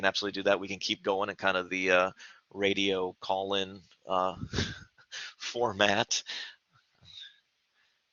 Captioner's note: laughter